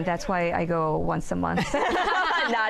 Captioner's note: laughter